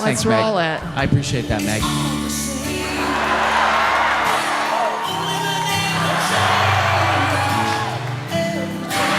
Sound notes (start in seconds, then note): 2.7 audience laughing